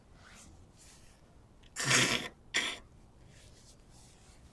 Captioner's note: wiping nose